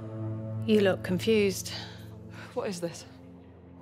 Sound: new, singular voice

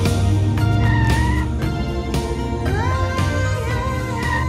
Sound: tires squealing

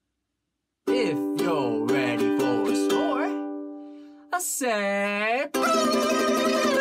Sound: silly noises

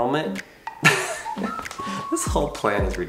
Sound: laughing

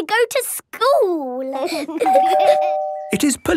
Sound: door bell ringing

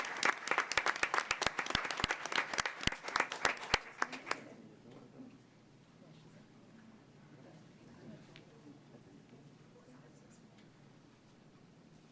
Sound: applause

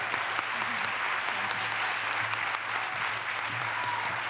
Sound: applause

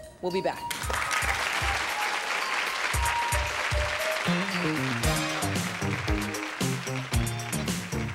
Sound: applause

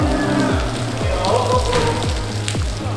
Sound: laughs

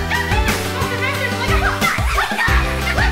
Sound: yelling

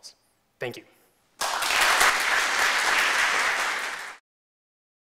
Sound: applause

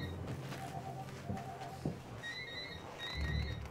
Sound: phones ring

